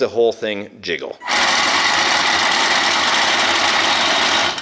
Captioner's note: rattling